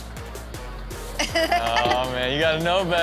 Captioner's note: Chanel laughs